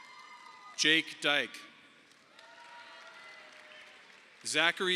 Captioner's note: audience applauding